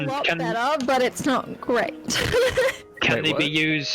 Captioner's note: laughs